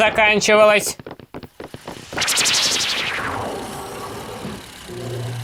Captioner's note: footsteps; teleportation rustle; vintage car engine rattle; footsteps